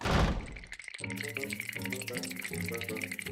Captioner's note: doors slam; teeth chattering